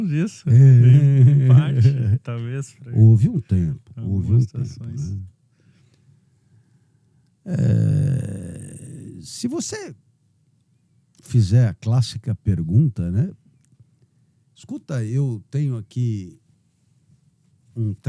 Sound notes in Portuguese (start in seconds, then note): 0.5 risos